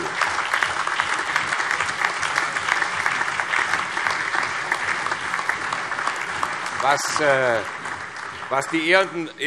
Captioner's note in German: Beifall